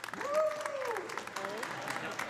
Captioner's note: audience applauding; audience laughing